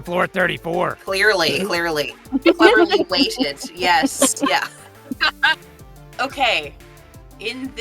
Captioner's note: EVERYONE chuckles